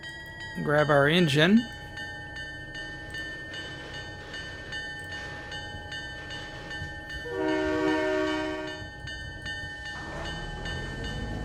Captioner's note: train whistle